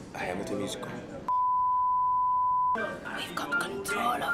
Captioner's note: test pattern beeping